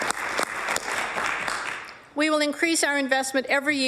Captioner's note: applause